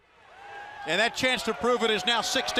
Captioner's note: crowd cheering